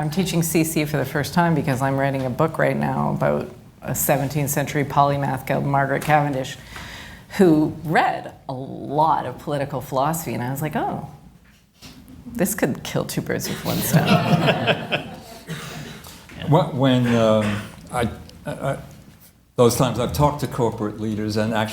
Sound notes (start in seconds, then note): 13.4 laughter